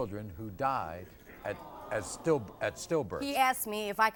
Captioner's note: audience groans